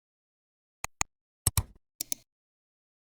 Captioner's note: 3 different clicks